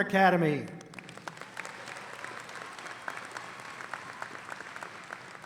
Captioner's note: audience applauding